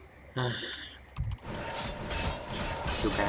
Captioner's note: sighs